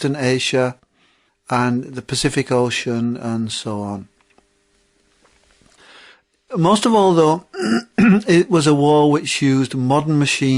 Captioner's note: throat clear